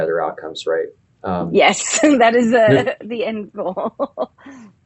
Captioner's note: laughing